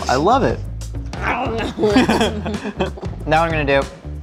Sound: laughing

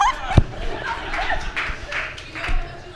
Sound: laughs; applause and laughter from the audience

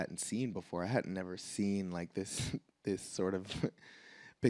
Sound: laughs

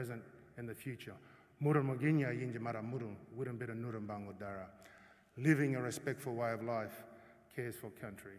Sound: non-english speech

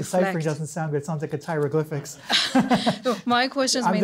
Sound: laughs

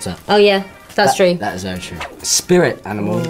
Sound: air whooshes

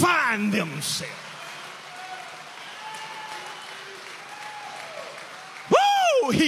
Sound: audience applauding

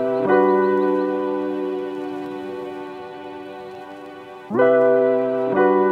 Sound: warm, upbeat, Introduction music plays; sounds of birds in the distance

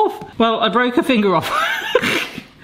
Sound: laughs

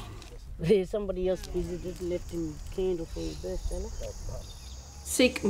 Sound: laughs

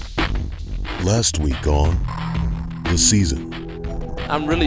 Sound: voiceover

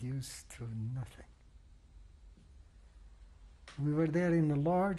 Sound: pauses for 3 seconds

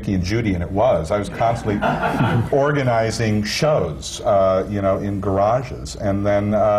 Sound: laughter

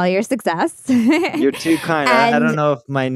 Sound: chuckling

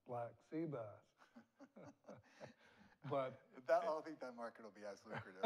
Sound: both laugh

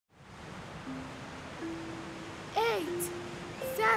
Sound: waves roaring

